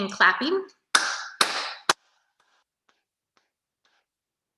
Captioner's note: clapping